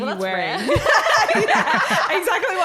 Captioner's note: laughing